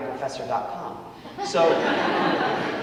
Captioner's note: audience laughing